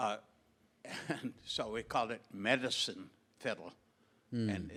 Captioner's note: chuckles